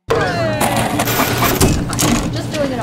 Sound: cheering; photocopier whirring; sharpener whirring; stapler clacking; loud water-cooler conversation

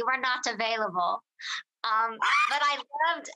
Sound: laughs

